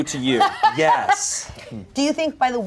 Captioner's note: laughs